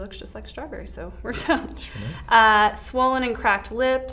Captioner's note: chuckles